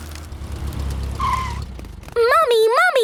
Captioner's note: tires screeching